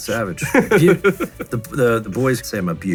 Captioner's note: laughs